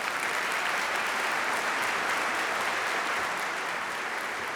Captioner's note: audience applauding